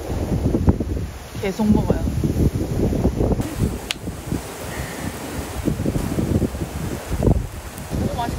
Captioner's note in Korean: 자글자글